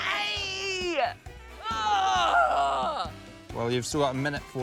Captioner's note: groans